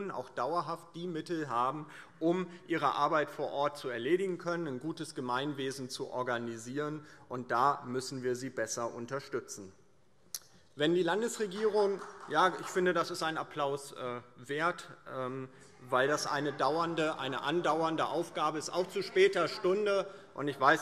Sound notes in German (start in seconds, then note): 9.4 Beifall